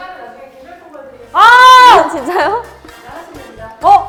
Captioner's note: yelling